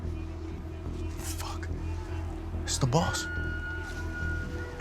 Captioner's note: whispers